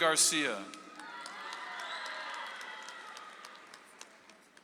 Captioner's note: audience applauds